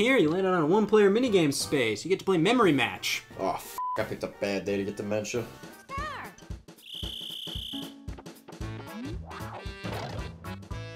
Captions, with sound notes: to break that tradition here, you landed on a one player mini games space. You get to play Memory Match. - Oh (beeps), I picked a bad day to get dementia. - Start. (retro game music)